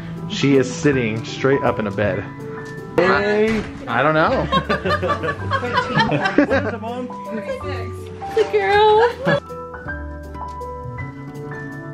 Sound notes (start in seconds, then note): 4.2 laughs; 9.2 soft melodies